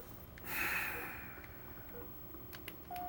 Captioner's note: exhales